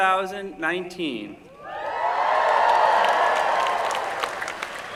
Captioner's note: cheering